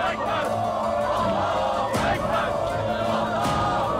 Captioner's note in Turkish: Hep bir ağızdan